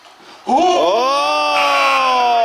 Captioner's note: all yelling; buzzer